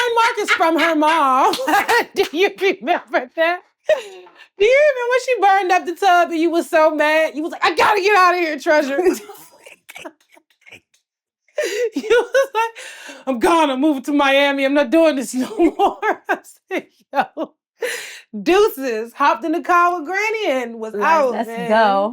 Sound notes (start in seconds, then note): 11.6 Blac Chyna laughs; 15.4 laughs